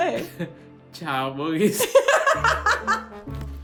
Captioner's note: speaks in Korean; both laugh; comical music